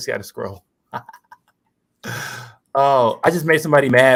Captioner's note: laughs